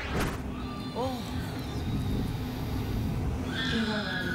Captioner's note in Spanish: llanto del bebé